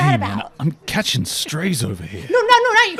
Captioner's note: chuckles